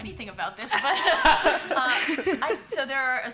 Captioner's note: laughter